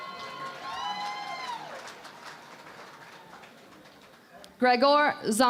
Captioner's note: cheering and Applause